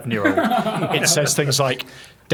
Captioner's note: laughing